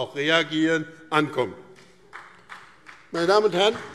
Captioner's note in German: Vereinzelter Beifall BÜNDNIS 90/DIE GRÜNEN und CDU